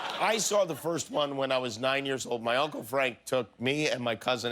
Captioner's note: laughter